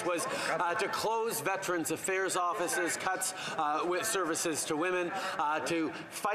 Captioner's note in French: voix de l'interprète